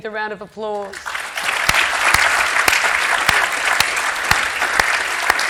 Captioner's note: audience applauding